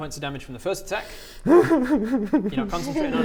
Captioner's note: whimper.wav